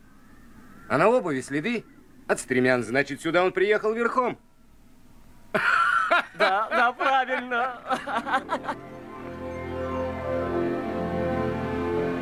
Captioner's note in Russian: смех